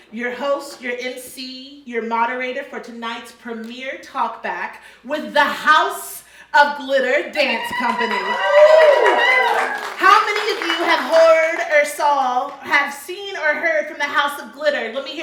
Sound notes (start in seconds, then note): 7.4 audience cheering